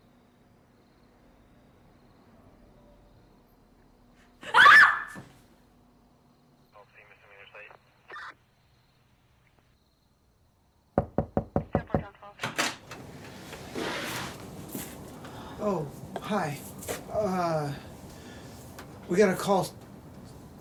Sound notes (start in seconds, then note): 4.4 scream; 6.8 voice on walkie-talkie; 11.0 knock on the door; 12.4 door opens